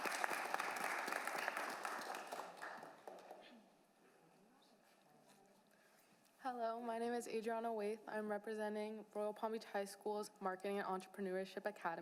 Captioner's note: applause